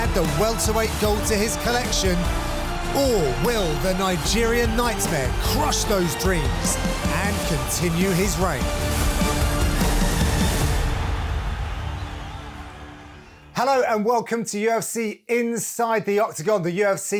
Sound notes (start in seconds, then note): 9.8 dramatic instrumental music; 11.9 crowd cheering in the background